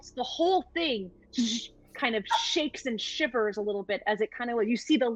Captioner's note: imitates zapping